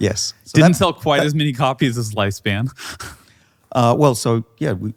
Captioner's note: laughs